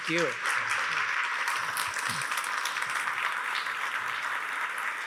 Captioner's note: attendees applauding